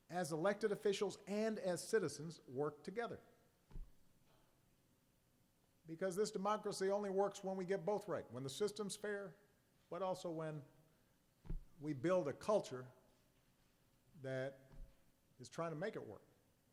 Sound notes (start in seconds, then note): none